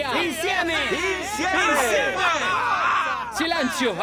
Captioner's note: in Italian; several men repeat the chant